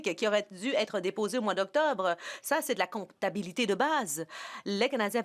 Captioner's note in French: voix de l'interprète